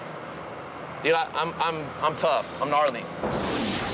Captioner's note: stammers